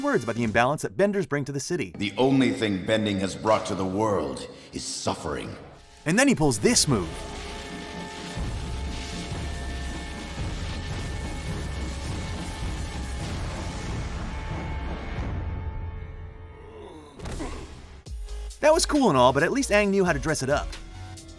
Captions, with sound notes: about the imbalance that Benders bring to the city The only thing Bending has brought to the world, is suffering. And then he pulls this move. [grunting] That was cool and all, but at least Aang knew how to dress it up.